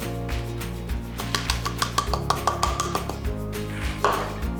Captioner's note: cup tapping